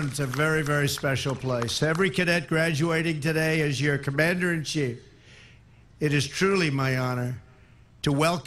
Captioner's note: applause